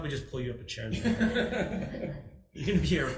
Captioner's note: people laugh